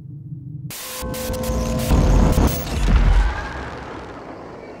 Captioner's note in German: Flimmergeräusche, düstere Töne